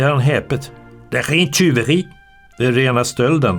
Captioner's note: in Danish